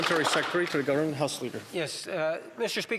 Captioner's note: some Applause